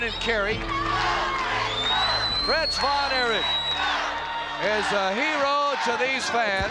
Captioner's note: crowd cheering